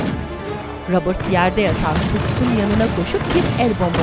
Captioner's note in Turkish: Silah sesleri